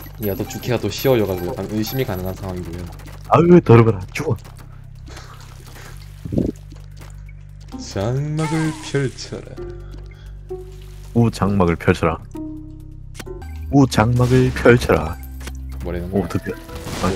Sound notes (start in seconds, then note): 6.3 nose wind